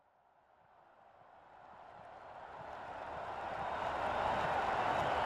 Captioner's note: crowd cheering